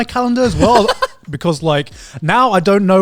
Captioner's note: laughs